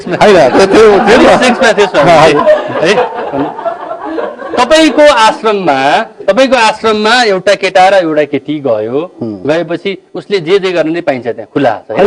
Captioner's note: laugh